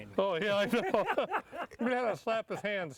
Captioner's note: laughing